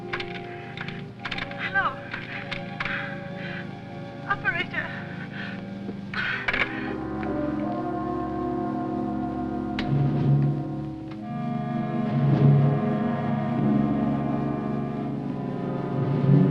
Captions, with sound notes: [ Tapping Receiver ] Hello? Operator! [ Hangs Up ]